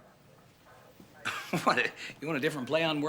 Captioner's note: chuckling